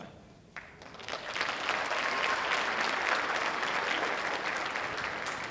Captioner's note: audience applauding